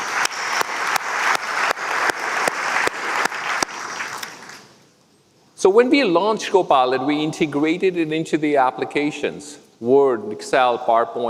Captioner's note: applause